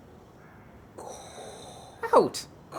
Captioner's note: Darth Vader-esque heaby breathing